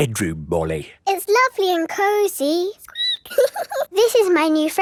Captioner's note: squeaks